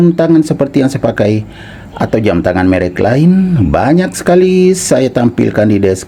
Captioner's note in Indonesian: berdehem